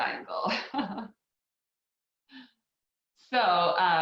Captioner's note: laughs